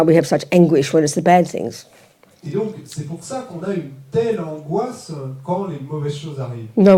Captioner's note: French